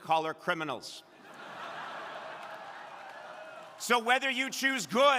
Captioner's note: crowd laughing